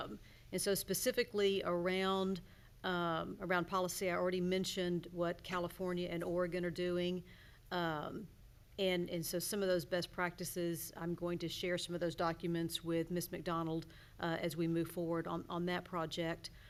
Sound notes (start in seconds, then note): none